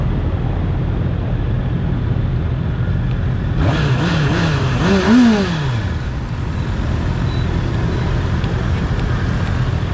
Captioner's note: electronic clutch